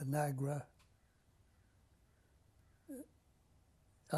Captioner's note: pauses for 3 seconds